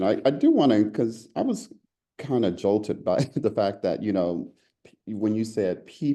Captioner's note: laugh